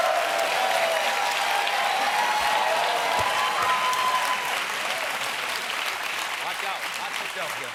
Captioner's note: cheers and applause